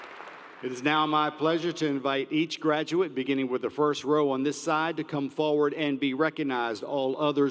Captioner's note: applause